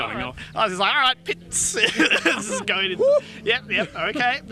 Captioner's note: laughs